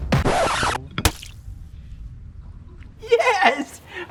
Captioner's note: record scratches